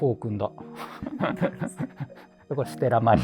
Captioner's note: laughing